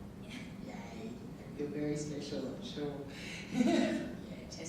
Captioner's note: laughing